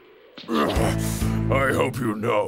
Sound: grunting

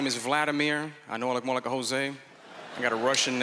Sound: laughter

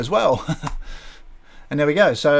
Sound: chuckles

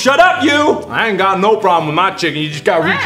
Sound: country accent

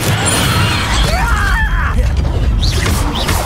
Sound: goblin screams

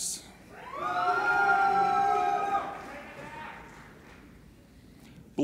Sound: applauding and cheering

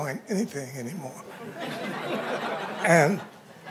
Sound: laughter

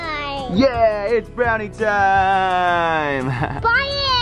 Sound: laughs

